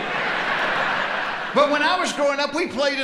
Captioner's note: audience laughing